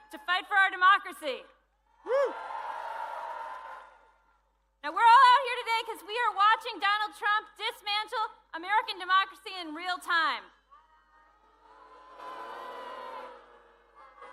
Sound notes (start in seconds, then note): 4.2 cheering